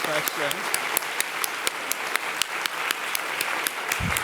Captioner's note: audience applauding